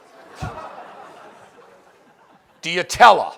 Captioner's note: laughing